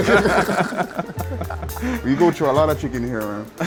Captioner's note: laughs